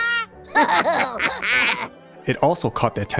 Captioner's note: laughter